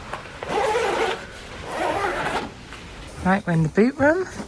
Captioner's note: snow pants zip